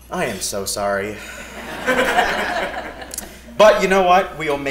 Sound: laugh

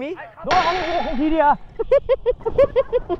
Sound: encouraging

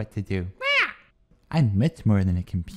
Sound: squawks

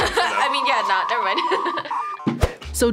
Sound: laughs

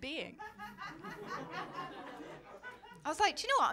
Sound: laughter

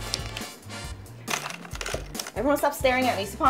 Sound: puzzle pieces clinking

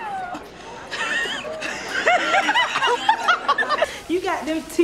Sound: laughing

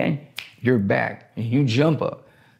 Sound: fingers snapping

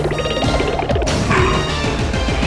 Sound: roaring

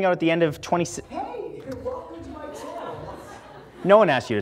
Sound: computer talking

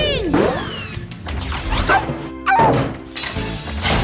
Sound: barking

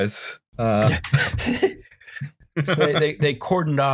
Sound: laughter

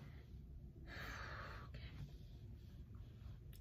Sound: exhales

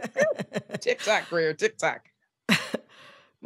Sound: laughter

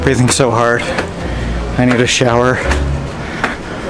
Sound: gasping

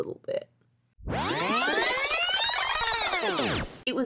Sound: rewind sound effect

